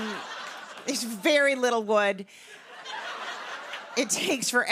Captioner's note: laughter; laughter